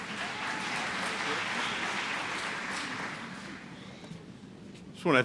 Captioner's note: applause